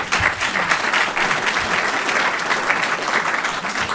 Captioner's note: applauding